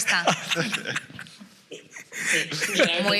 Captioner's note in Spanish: algunos ríen